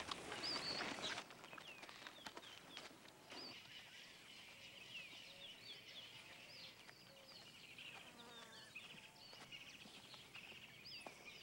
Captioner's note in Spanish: sonidos selváticos